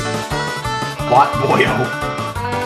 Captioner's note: laughs